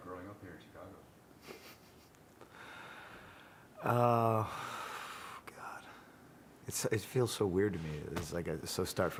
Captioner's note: laugh